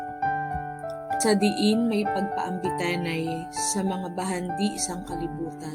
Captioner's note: narrator speaking in Hiligaynon